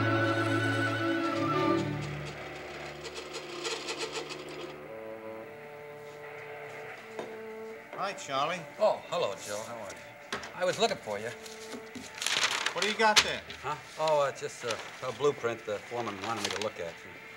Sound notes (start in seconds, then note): 2.3 machine shop noise